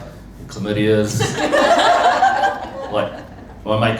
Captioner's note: laughter